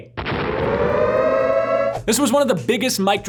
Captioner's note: sirens ring